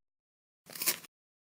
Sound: Crunch

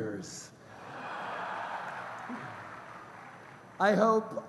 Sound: laughter

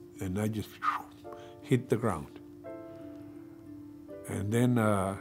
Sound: vocalizes

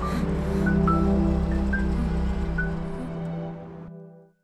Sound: car stops

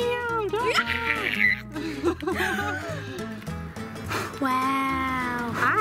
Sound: screaming

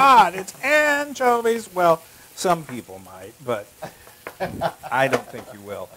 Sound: laugh

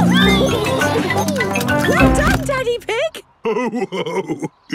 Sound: laughing; giggles

